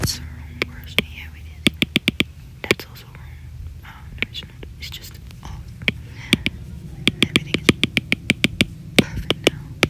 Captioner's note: tapping